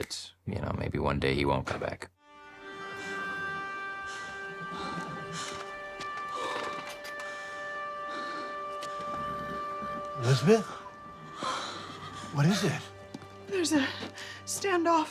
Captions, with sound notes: and also fear that maybe one day he won't come back. (suspenseful music) (Elizabeth panting) - Elizabeth, what is it? - There's a standoff